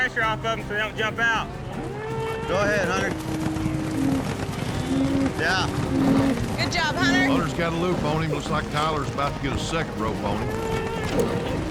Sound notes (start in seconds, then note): 3.1 hoofbeats